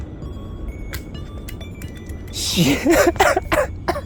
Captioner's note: sound of watch rolling